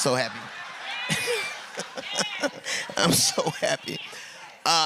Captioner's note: laughs